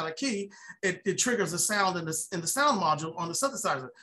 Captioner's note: none